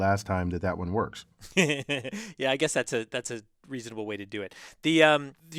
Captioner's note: laugh